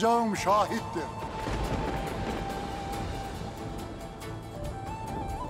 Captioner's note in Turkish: Gök gürültüsü efekti